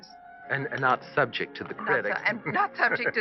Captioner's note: chuckles